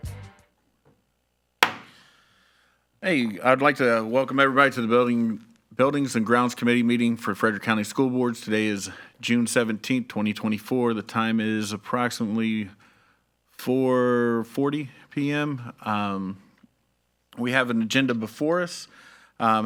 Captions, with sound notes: (gavel clacks) - Hey, I would like to welcome everybody to the Buildings and Grounds Committee meeting for Frederick County School Boards. Today is June 17th, 2024. The time is approximately 4:40 PM We have an agenda before us.